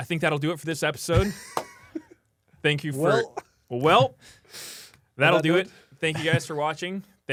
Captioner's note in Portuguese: risos